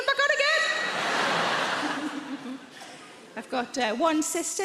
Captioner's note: crowd laughs